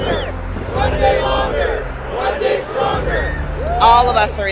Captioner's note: chanting